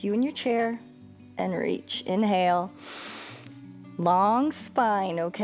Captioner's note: inhales